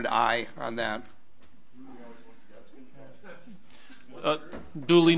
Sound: overlapping chattering

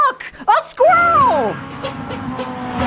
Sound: squirrel and engine noises

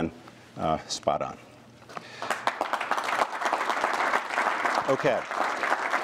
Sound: applause

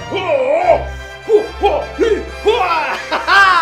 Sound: fighting noises

